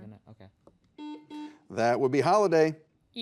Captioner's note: buzzer buzzes